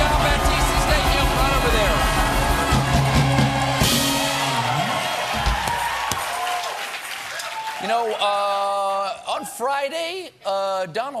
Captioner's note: cheers and applause